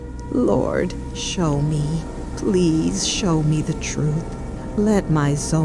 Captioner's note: praying softly